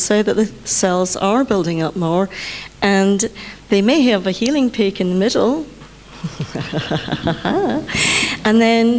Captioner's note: laughs